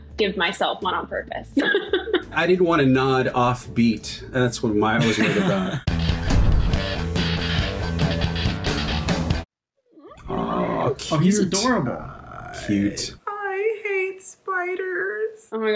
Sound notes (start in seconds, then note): 1.8 laughs; 4.8 upbeat rock interlude; 5.0 chuckle